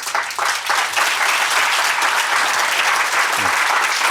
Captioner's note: people applauding